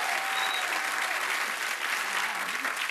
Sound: cheers and applause

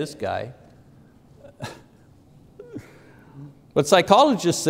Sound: laughs

